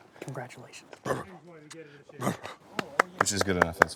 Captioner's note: george blusters